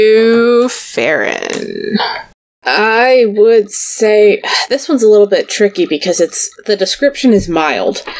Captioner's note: sighs